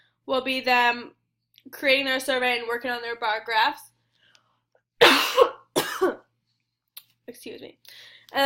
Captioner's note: oughs, excuse me